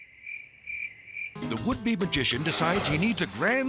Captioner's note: crickets chirping